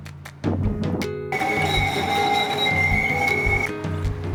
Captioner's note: siren